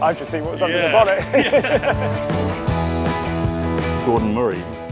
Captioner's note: both laughing